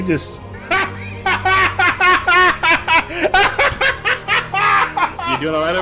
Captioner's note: uncontrolled laughter